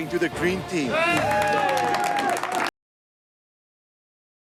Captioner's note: cheering